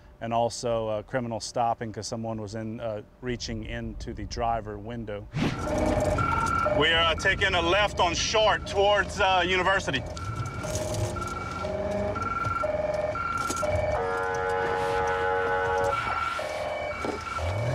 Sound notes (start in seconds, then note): 9.7 siren; 13.6 honking